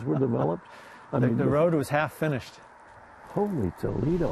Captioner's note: laughs